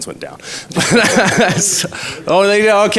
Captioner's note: laughs